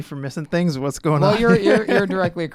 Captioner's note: laughs